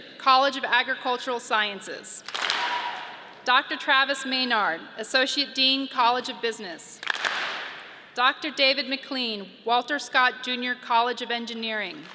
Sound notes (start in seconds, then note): 2.2 audience claps and cheers; 7.0 audience claps